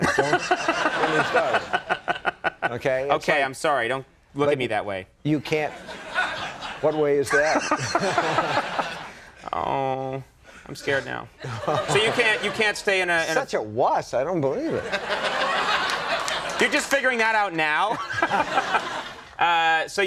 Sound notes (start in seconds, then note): 0.0 Conan laughing; 5.7 audience laughing; 8.0 Conan and audience laughing; 11.4 Stephen and audience laughing; 14.6 Andy and audience laughing; 19.3 laughs